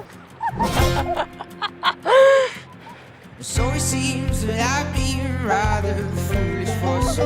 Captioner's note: laughs